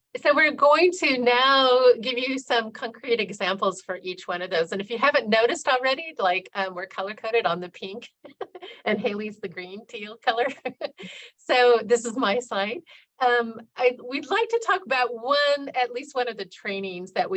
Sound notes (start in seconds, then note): 8.2 laughing